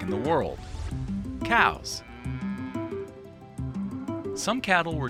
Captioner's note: cow mooing